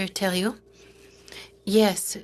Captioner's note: speaking in French